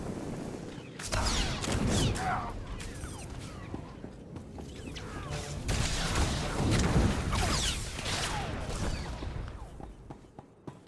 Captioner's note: gunshots